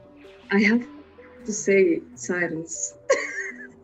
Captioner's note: laughs